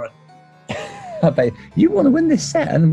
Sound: laughs

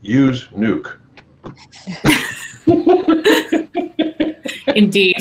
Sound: all laughing

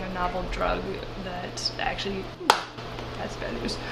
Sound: smack!

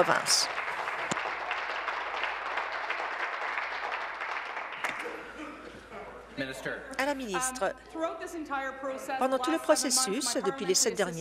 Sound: applause

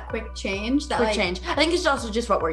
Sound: murmurs

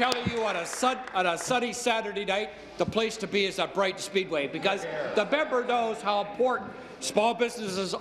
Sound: applause

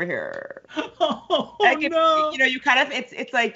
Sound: laughs

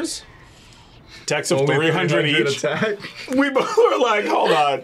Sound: laughs

